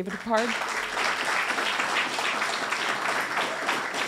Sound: applause

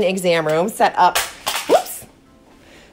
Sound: crashing

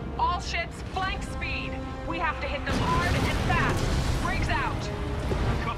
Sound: radio

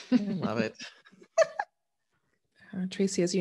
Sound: both laughing

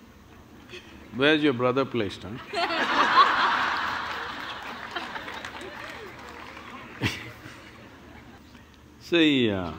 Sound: laughter

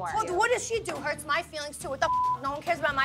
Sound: beep

